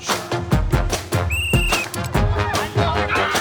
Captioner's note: band music; whistle blowing; band music continues